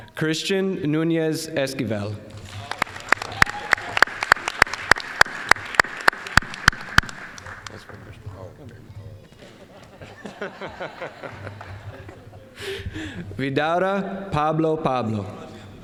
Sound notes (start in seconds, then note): 2.4 applause; 9.2 all laughing